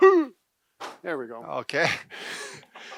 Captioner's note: grunting